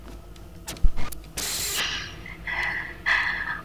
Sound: cassette static

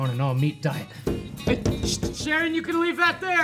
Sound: banging

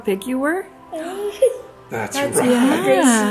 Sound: giggles

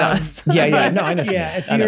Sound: laughs

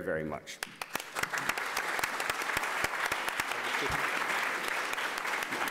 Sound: applause

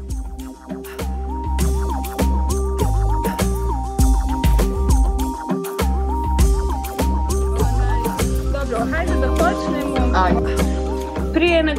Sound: chitchat

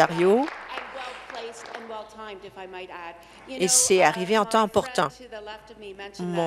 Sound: applause

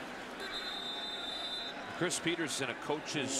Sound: whistle

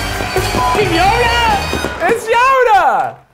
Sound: celebratory music; beeping

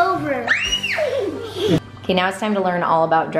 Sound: child screams

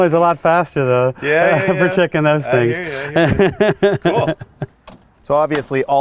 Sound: laughs

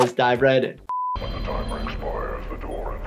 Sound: television beep

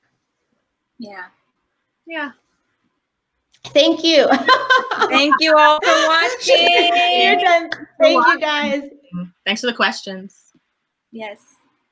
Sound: laughter

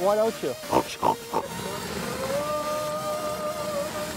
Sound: oinking

